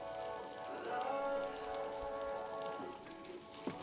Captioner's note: meat sizzling in a pan